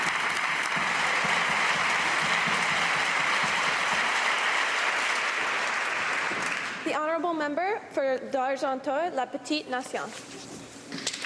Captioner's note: cheers and applause; speaking french